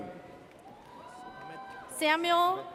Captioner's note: audience cheers